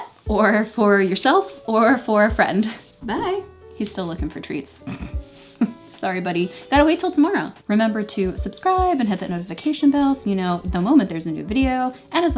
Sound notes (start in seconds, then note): 8.4 chiming